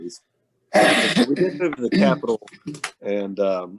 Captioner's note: clearing throat